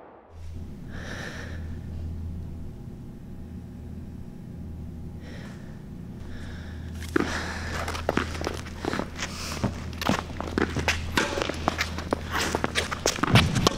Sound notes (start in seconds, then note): 0.9 girl exhaling; 6.8 ball bouncing; 9.6 racket stroking